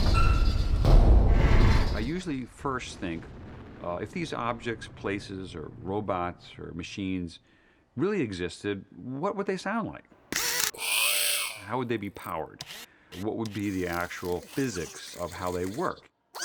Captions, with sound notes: (THUDDING) I usually first think, if these objects, places, or robots, or machines really existed, what would they sound like? (WHIRRING) How would they be powered? What would be the actual physics of how they work?